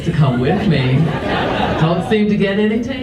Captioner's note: audience laughs